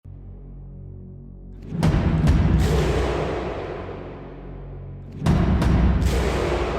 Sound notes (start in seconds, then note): 1.8 crowd stomping and clapping